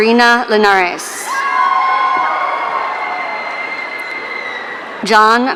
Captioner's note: audience cheering